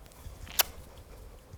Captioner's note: blows kiss